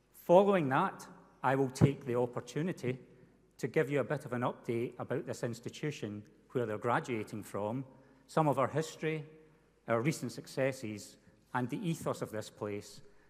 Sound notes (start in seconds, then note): none